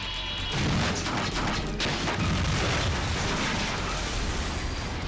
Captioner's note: helicopter crashing